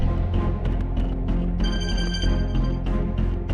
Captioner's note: phone ringing